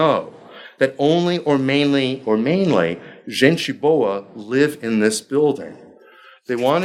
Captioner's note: speaking foreign language